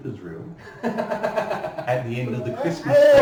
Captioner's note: laughing